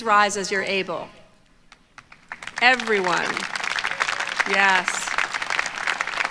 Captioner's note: applause